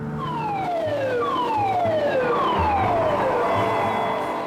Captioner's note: alarm blares